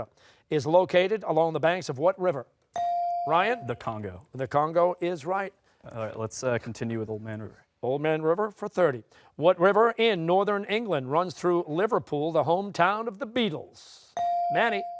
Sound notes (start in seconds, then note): none